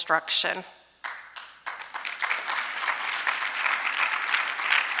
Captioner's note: audience applauding